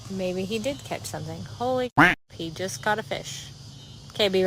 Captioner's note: duck quacking